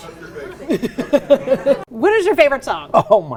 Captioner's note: laughing